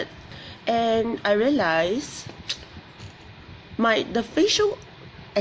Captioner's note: clicks tongue